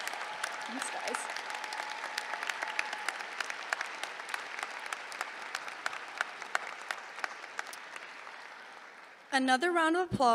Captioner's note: applause